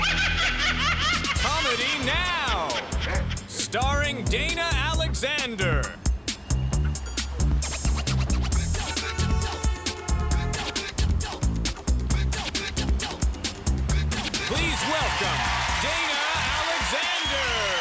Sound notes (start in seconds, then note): 8.6 horn honks; 14.4 cheers and applause